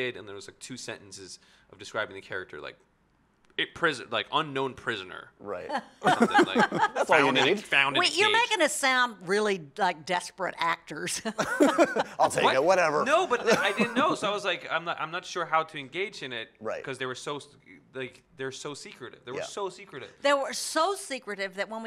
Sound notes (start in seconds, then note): 6.0 Sissy laughing